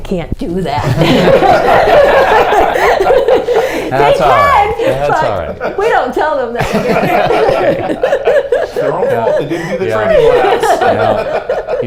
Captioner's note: laughter